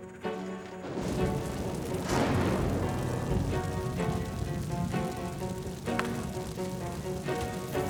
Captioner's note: door opens and slams; tense dramatic music; flames crackle; explosion booms